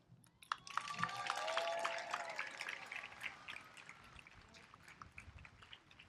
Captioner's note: applause